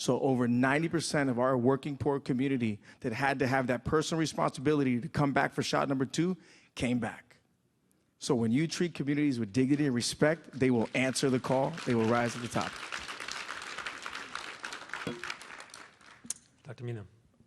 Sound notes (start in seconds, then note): 12.9 applause